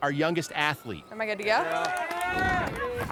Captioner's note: crowd clapping